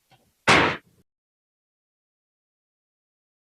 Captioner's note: gavel hit